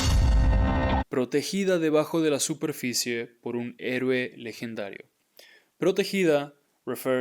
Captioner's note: speaking in Spanish